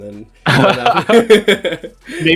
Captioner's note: laughing